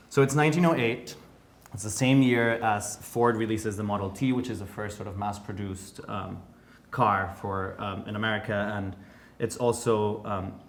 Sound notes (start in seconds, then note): none